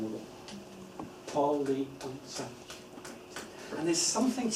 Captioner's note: clapping